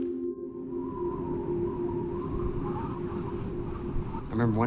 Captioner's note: wind whooshing